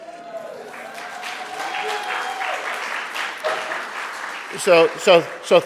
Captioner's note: audience cheering and applauding